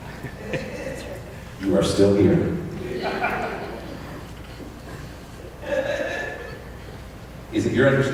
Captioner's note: crowd noise; laughter